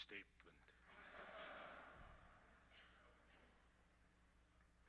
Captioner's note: crowd laughs